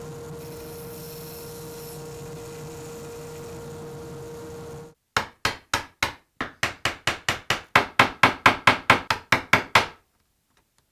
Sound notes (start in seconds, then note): 5.2 gentle hammering